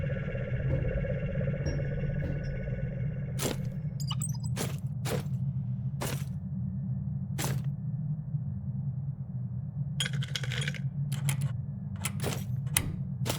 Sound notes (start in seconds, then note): 9.8 apparatus clattering